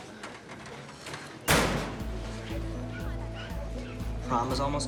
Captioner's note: locker door slams